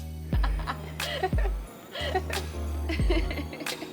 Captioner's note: laughs